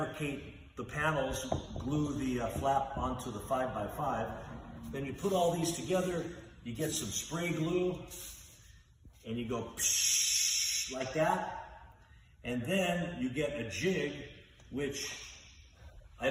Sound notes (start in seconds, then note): 10.7 pshhh